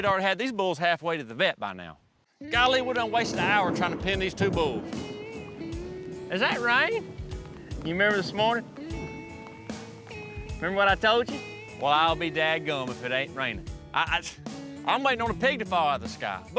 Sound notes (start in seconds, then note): 2.6 thunderclap